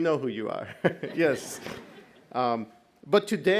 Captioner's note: audience laughs